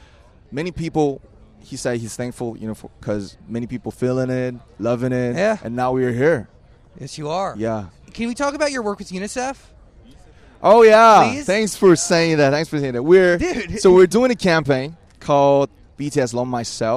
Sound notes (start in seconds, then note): 11.5 excited